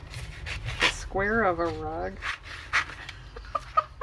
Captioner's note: laughs